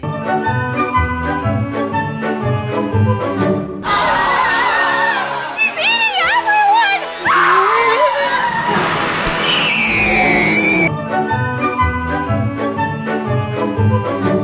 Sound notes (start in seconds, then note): 0.2 jovial music; 3.8 screaming; 6.6 screaming continues; 11.8 jovial music